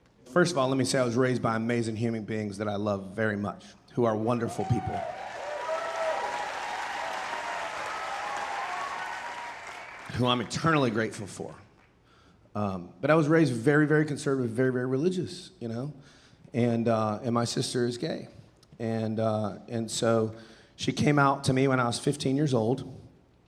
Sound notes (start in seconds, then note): 4.4 audience cheering and applauding